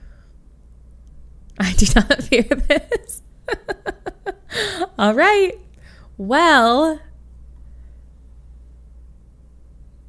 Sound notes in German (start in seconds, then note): 3.5 lacht